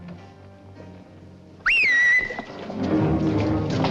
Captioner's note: a whistle signal